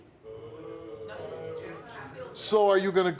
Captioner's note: audience boo's